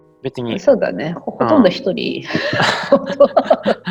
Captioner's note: laugh